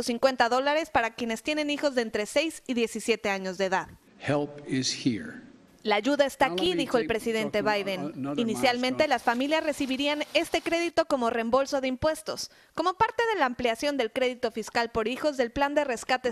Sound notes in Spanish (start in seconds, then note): 9.5 HABLAN EN INGLéS